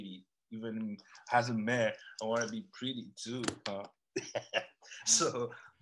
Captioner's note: laughs